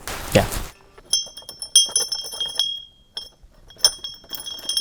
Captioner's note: bell dings